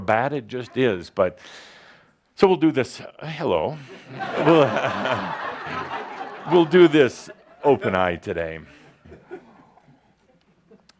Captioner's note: laughter